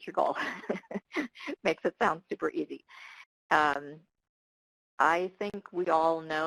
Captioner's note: laughs